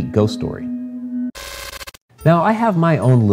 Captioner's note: crackling static